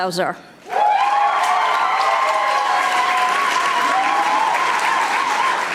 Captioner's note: audience applauding